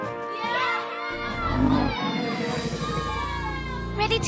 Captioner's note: alligator growling